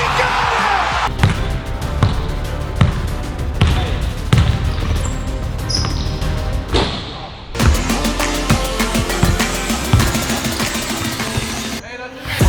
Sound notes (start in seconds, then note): 1.0 upbeat orchestral music; 1.1 ball bounces; 6.6 ball hits rim; 9.2 upbeat orchestral music; 9.8 ball bounces